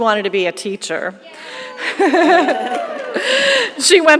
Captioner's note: audience cheering; lady laughing